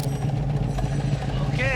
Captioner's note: electricity zapping, engine rumbling